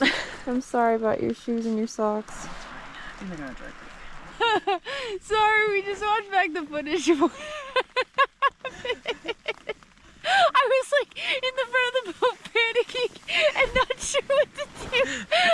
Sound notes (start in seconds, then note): 4.3 laughs; 7.0 laughs